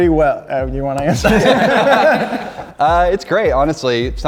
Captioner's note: laughing